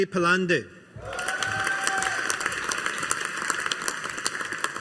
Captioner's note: audience applauding